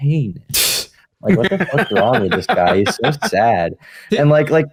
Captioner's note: laughs